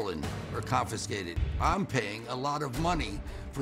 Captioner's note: none